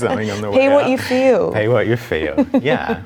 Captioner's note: laughs